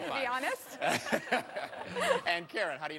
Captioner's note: laughter